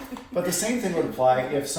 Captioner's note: laughs